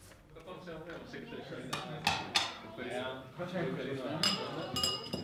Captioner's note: speaking foreign language